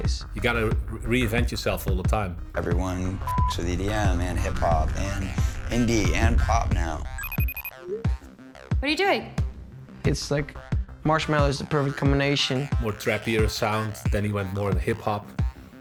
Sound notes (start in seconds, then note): 7.2 cell phone ringing